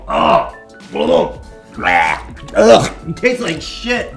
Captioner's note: gags; more of gagging